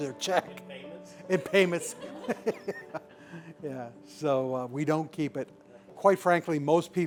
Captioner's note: laughter